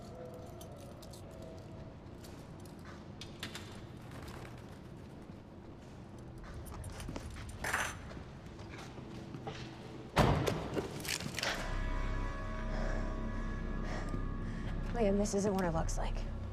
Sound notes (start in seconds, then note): 4.4 handcuffs clatter; 10.0 breathing heavily